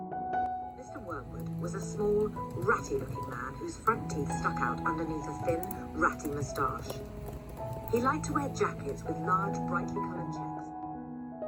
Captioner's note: "Matilda" audiobook playing in the background